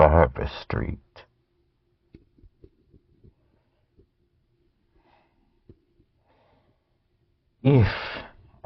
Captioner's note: silence